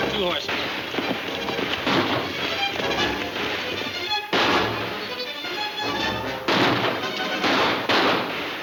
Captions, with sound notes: (guns firing) - What happened?